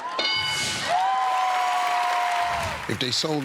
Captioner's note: cheers and applause